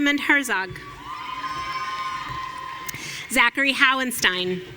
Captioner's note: audience cheering